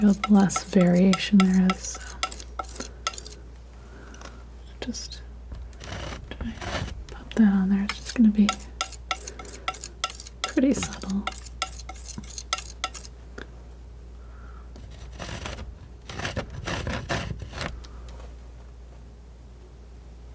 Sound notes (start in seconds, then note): 14.8 scratching